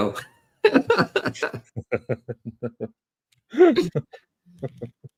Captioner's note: laughter